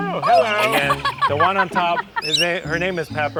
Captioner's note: laughing heartily